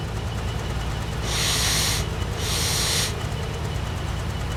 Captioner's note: sniffs in slav